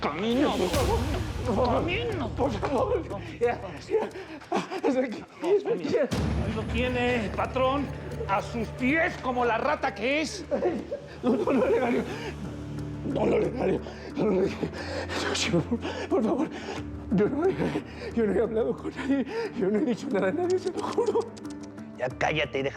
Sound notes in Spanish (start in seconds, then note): 10.9 llanto de gastón; 15.5 jadea y solloza; 20.5 chasquidos bucales